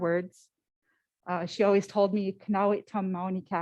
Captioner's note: foreign language